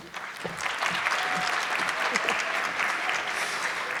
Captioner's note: audience clapping